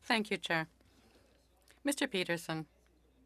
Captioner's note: speaking French